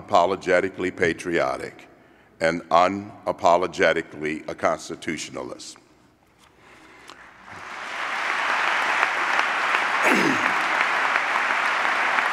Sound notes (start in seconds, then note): 7.4 applause